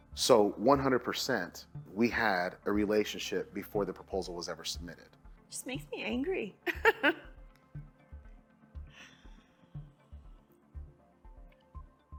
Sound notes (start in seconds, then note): 6.7 laughing